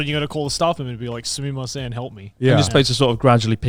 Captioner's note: speaking Japanese